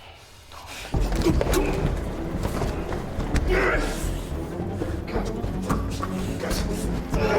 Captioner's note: tense menacing music; both grunting